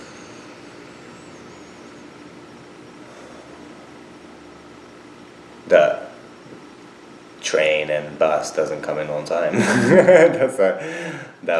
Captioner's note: laughs